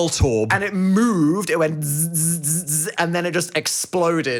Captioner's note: imitating electric sounds